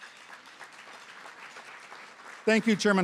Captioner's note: applause